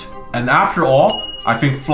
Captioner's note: bell dings